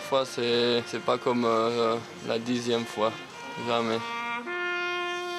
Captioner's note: Hebrew spoken audio